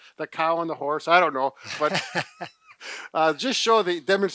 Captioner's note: laughs